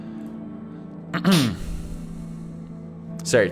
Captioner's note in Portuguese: limpando garganta